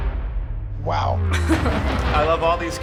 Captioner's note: chuckles